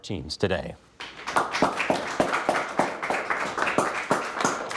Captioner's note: everyone applauding